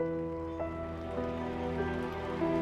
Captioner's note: cheering and applauding